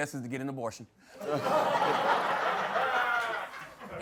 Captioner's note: laughter